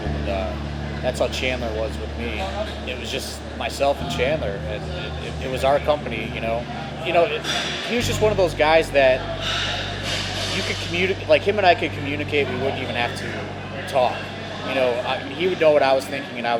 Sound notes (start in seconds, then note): none